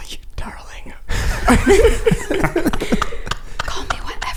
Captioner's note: laughter